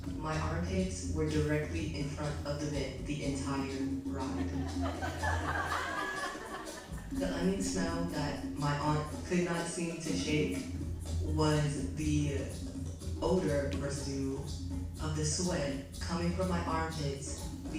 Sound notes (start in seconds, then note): 4.1 audience laughs